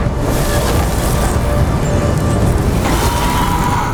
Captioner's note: goblin screams